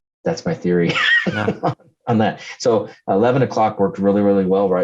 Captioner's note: laughs